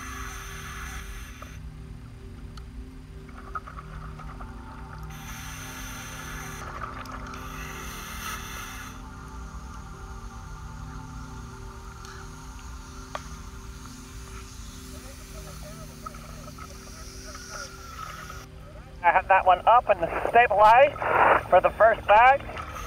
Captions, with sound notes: (gentle music) (air whooshes) I have that one up and it's stabilized for the first bag.